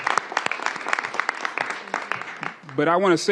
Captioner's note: applause